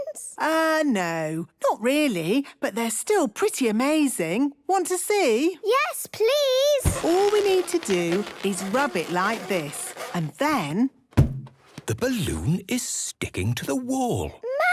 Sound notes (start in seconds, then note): 6.8 balloon rubbing; 10.8 balloon echoes